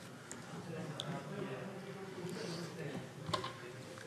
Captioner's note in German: none